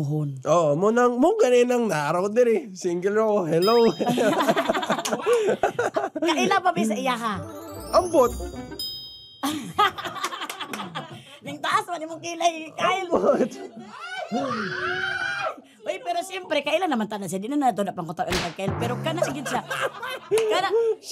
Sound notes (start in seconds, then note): 3.8 both laughing; 9.4 chuckles; 13.9 staff cheering; 18.9 chuckles